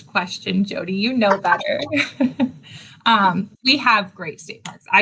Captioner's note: laughs